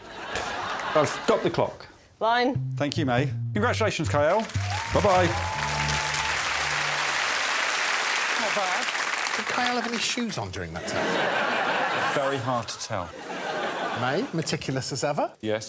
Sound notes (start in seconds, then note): 7.1 cheering and applause